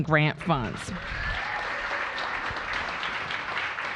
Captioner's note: applause